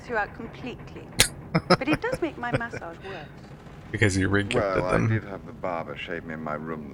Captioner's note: laughing